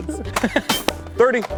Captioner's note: pew